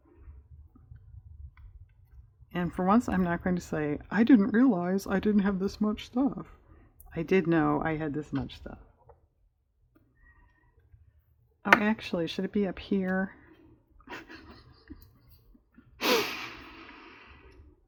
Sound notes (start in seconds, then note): 13.0 laughs